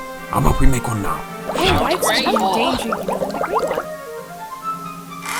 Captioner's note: overlapping agreement